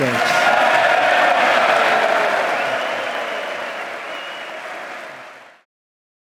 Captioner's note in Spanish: aplauso